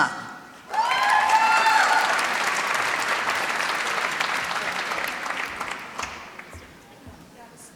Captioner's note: applause